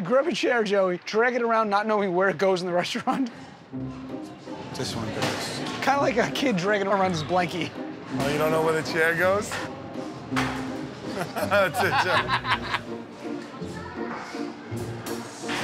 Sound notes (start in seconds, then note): 11.0 laughing